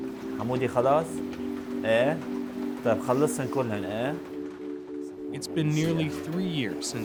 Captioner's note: speaking Arabic